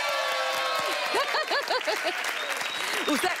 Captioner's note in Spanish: Aplausos